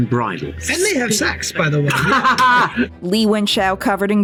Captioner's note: Burn laughing